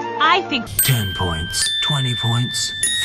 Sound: ding!

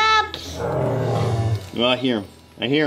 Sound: animal moans

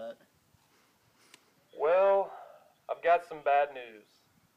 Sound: phone voice

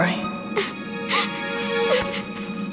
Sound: crying

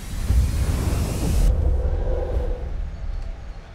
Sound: air whooshing

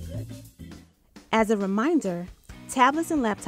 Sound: voiceover

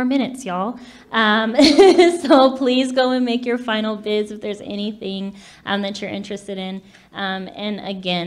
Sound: laughs

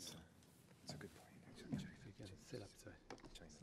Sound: whispering

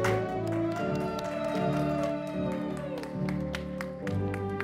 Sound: audience applauding

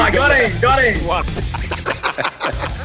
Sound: everybody laughs

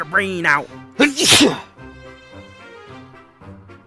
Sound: sneezes

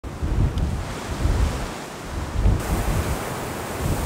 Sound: wind blowing

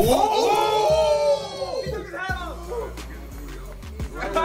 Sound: laugh

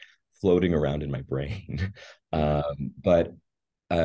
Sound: laughing

